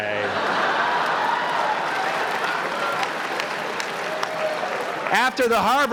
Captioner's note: laugher and applause